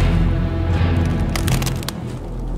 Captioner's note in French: Bois qui craque